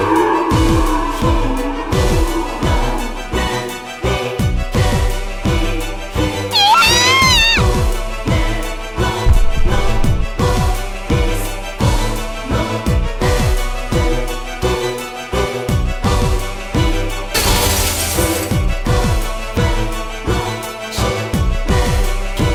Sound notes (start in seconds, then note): 6.5 screams